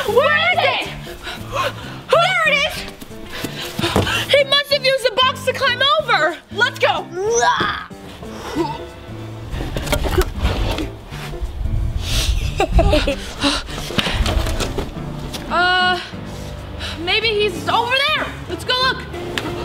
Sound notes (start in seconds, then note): 8.4 police girls groaning; 12.3 laughs